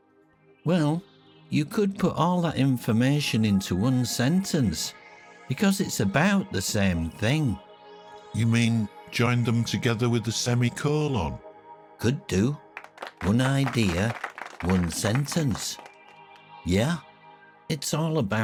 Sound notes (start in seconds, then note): 12.7 hands clapping